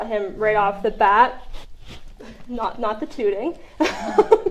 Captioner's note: laughter